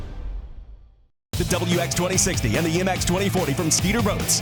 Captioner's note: voiceover